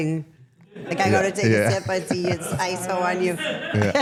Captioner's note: laughs